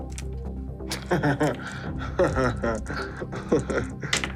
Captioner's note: laughs